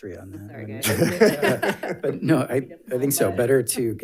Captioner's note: people laughing